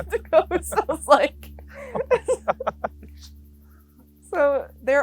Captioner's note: both laughing